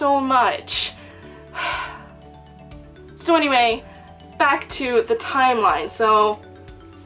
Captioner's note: heavy sigh